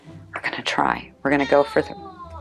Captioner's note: cat meowing